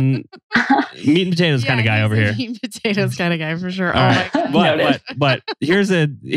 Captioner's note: laughs